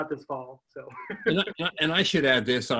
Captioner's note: laughs